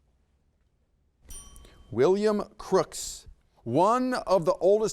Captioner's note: bell dings